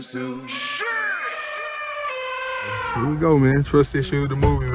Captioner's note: elephant trumpeting